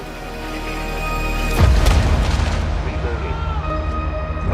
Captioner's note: distant explosions